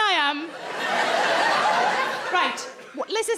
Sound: crowd laugh

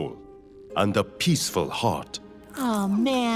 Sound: none

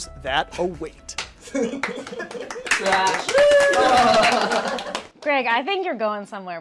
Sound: impressed applause

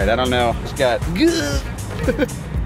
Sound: laughing

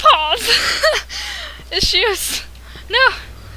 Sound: laughs

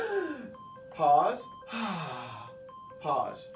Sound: breathes out; breathes in

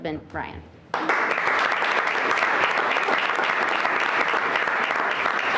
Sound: everyone clapping

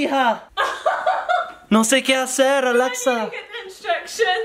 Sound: laughs

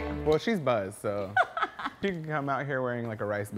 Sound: laughs

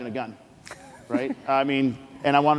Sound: laughs

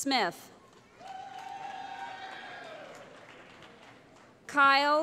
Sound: cheering

